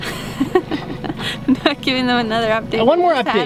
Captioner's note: laughs